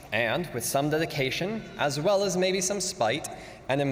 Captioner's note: none